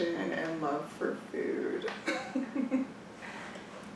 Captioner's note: laughs